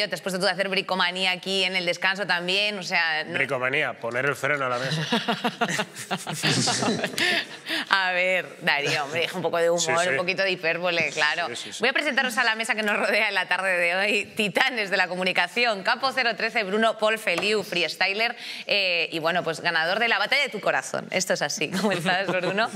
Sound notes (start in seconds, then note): 4.8 she laughs